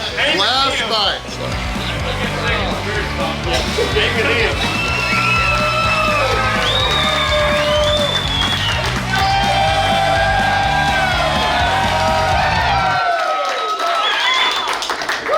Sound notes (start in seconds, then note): 1.4 cheering & Clapping